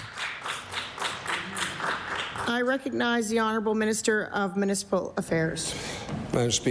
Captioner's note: applause